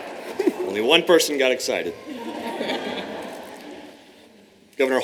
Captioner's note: laughter